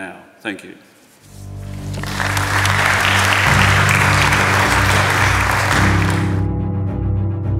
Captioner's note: applause